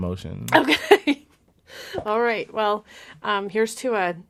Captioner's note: laughs